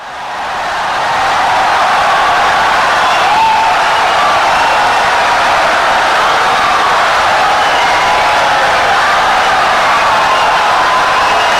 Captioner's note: wild applause and cheering for 17 seconds